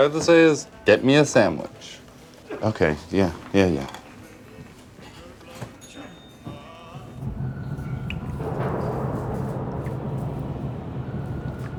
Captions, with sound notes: all you have to say is, "Get me a sandwich". - Okay, yeah. Yeah, yeah. (water dripping)